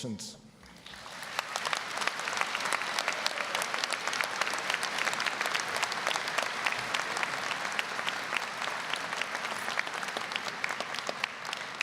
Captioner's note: applause